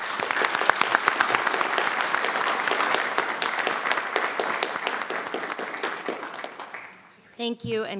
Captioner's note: applause